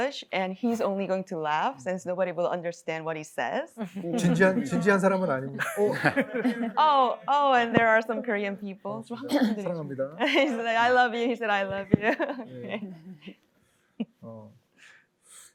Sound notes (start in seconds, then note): 4.0 laughter; 4.9 speaking korean; 9.5 speaking korean; 15.3 speaking korean